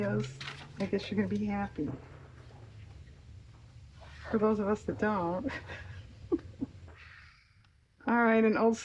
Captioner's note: laughs